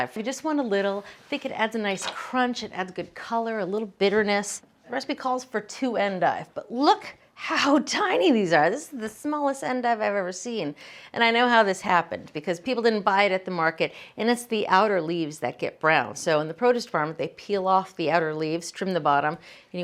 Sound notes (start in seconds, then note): none